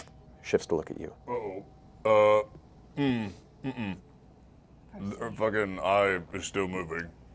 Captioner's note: unhappy humming